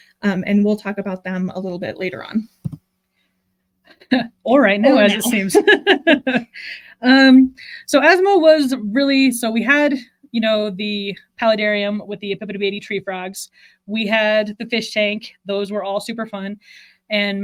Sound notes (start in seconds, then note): 4.8 laughing